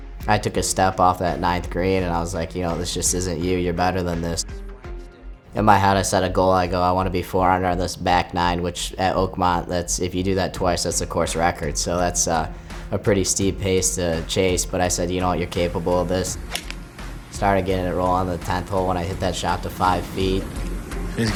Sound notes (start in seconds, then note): 16.3 club whacking